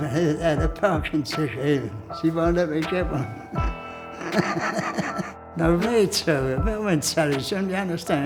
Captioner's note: laughs